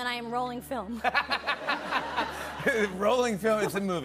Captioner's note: laughter